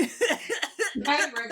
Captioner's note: laughing